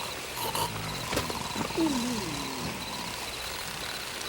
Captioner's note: head thuds